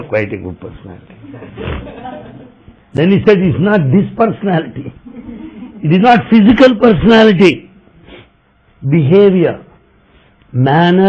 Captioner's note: laughter